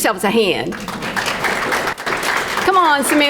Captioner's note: crowd clapping